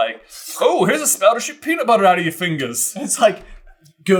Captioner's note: whoosh whoosh